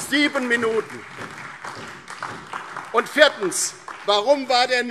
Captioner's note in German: Beifall DIE LINKE und SPD